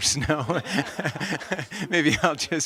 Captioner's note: laughter